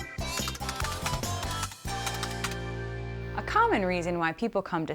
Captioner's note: groovy music; keyboard typing